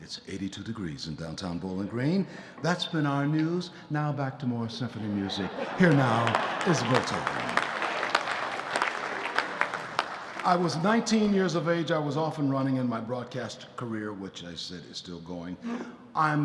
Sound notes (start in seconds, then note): 7.7 audience laughing and applauding